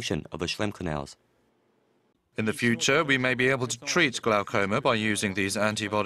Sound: Korean

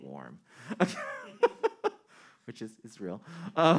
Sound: man laughing

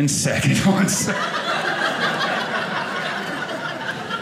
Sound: audience laughing

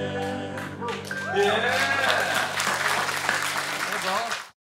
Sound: cheers and applause

